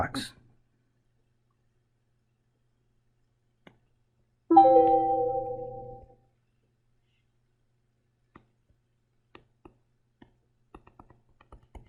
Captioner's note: writing Sounds